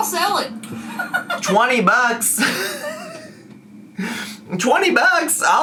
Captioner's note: laughs